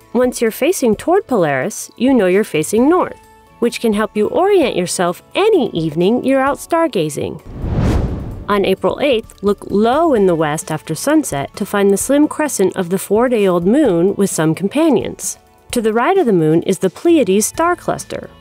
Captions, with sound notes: Once you're facing toward Polaris, you know you're facing north, which can help you orient yourself any evening you're out stargazing. [whoosh] On April 8th, look low in the west after sunset to find the slim crescent of the four-day-old Moon with some companions. To the right of the Moon is the Pleiades star cluster.